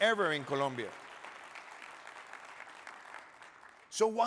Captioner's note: audience clapping